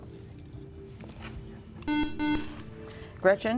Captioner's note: buzzer